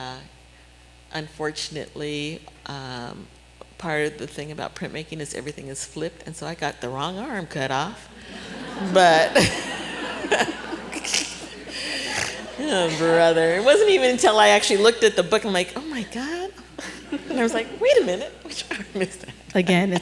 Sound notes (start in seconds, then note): 8.1 laughter